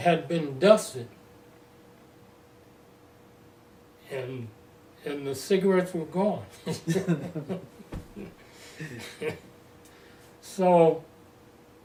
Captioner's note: laughter